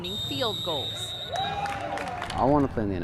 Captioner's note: cheers